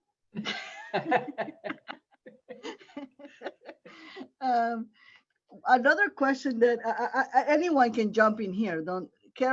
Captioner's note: laughter